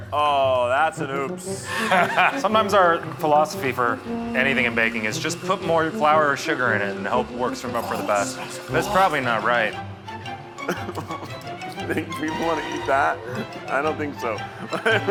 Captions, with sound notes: Oh, that's an oops. (laughing) - Sometimes our philosophy for anything in baking is just put more flour or sugar in it and hope it works for the best. - Oh, that smells awful. - That's probably not right. (laughing) - You think people want to eat that? I don't think so.